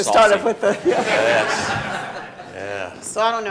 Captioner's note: audience laughing